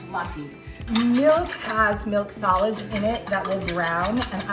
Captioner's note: whisking